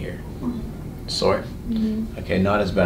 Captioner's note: patient groans